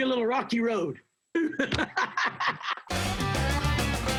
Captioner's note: laughter